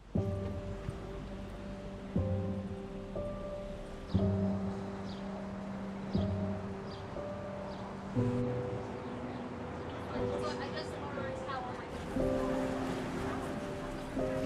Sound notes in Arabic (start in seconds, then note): 0.2 موسيقى تأملية; 11.1 ثرثرة الحشد